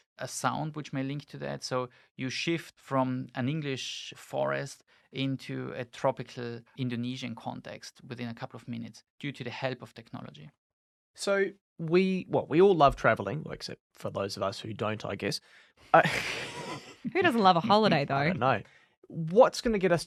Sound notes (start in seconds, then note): 16.0 laughs